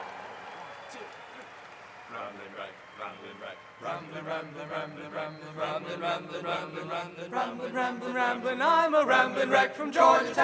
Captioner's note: applause